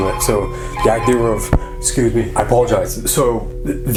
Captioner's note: phone ringing